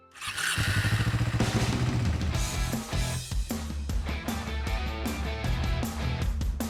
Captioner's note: motor rumbles; upbeat ambient music